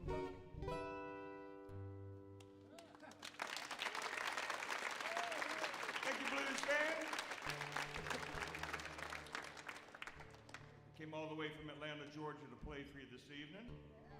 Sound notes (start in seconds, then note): 0.0 bluesy guitar music ends; 2.7 audience whoops and applauds; 8.1 audience applauds